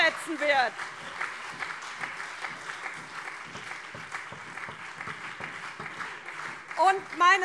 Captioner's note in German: Beifall SPD und CDU